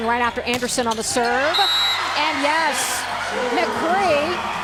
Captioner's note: whistle blows